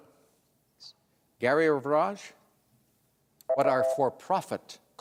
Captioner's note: beep